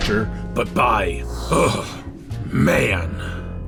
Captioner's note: shudders